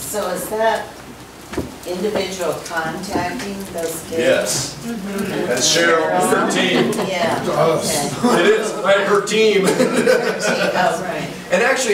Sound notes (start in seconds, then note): 8.2 overlapping chattering; 9.4 group laughs